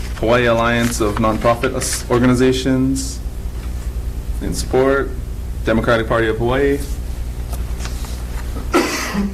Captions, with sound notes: Hawaii Alliance of Non Profit Organizations, in support. Democratic Party of Hawaii (coughs).